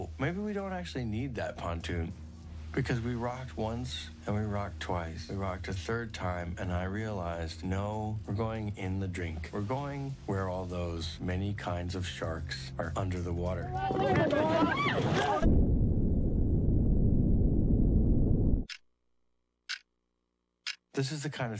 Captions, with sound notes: "Oh, maybe we don't actually need that pontoon." Because we rocked once and we rocked twice, and we rocked a third time. And I realized, "No, we're going in the drink. "We're going where all those many kinds of sharks are under the water." (all screaming) (ticking)